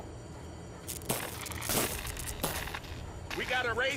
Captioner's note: crackling